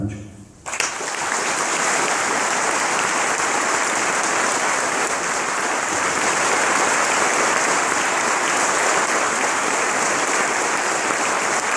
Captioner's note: applause